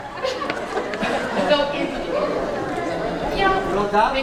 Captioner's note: more laughter